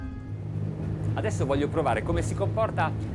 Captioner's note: man speaks in foreign language